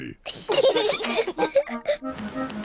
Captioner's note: both giggling